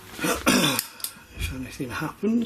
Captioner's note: light switch clicking